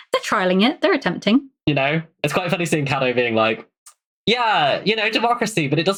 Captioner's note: laughs